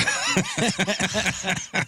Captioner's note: laughing